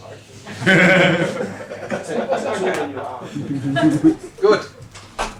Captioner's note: laughter